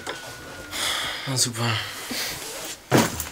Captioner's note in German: seufzend